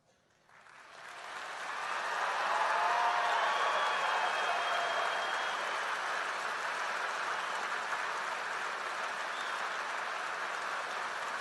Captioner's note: applause